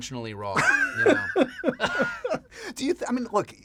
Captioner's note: laughter